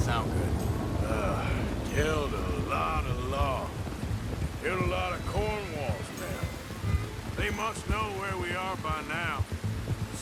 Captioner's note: sighs